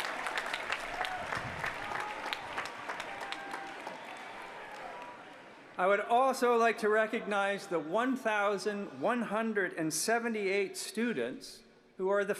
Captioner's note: applause